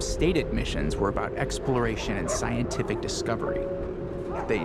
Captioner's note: barking